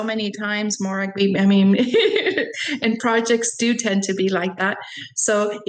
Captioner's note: laughs